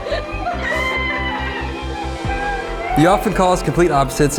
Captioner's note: laughs; cheering